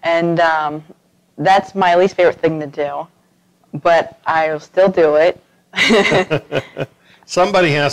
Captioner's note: laughter